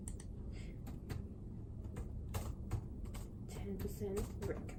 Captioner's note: keys clicking